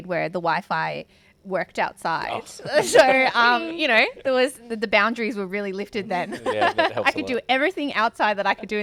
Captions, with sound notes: where the Wi-Fi worked outside. (all laugh) So you know, the boundaries were really lifted then. (laughing) Yeah, that helps a lot. I could do everything outside